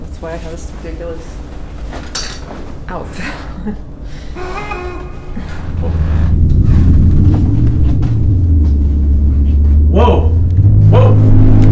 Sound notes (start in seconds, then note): 4.1 eerie honking